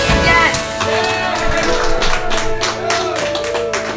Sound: cheering

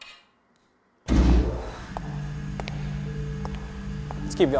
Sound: lights power up

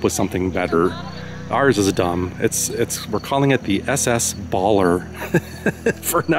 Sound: laughs

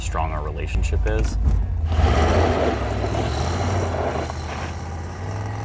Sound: engine revving

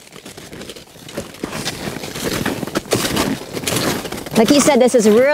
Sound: poles digging into the snow

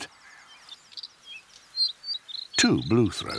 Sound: birdsong

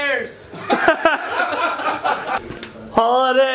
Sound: laughing

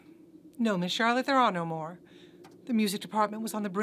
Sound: sighs

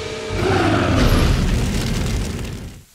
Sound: roars

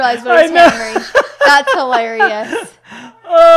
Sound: laughs

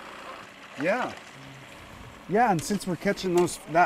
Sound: boat engine idling; fish splashing

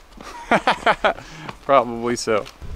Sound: laughs

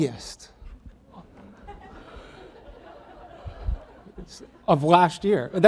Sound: audience laughs

